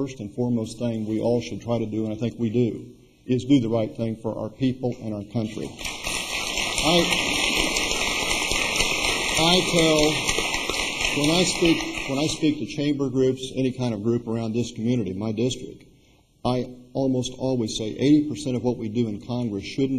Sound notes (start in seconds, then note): 5.6 applause